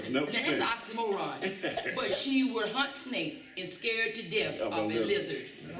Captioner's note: laughter